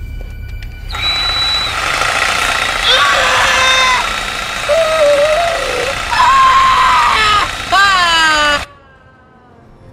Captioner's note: screaming; sawing